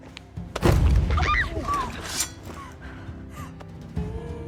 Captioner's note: screams, gasps